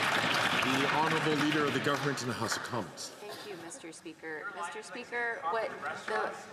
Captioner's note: some Applause